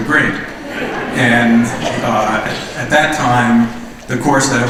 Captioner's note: laughter